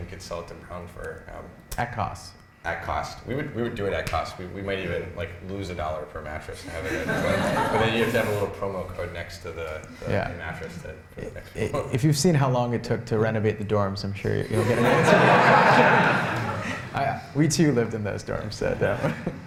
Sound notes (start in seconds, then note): 14.5 laughter